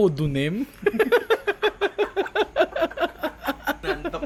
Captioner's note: laughter